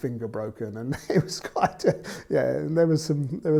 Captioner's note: laughs